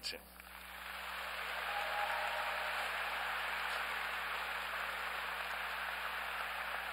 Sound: applause

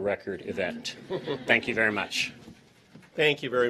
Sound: laughter

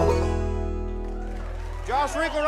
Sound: audience applauds

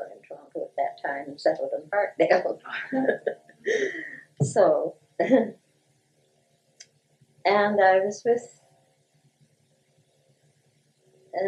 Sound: laughter

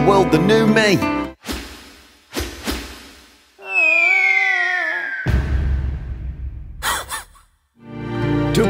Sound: falling sound, loud bang, dog laughs

